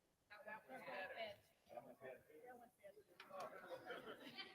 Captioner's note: people chattering